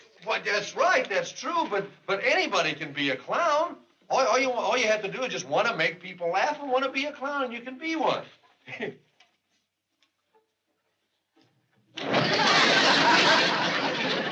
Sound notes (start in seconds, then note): 8.9 chuckles; 12.0 laughter